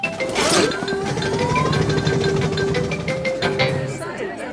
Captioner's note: all murmuring